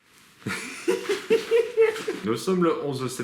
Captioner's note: laughs